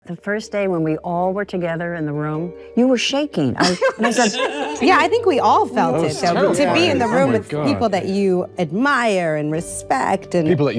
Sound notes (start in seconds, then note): 3.6 panelists laugh